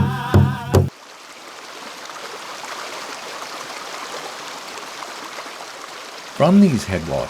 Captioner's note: rushing water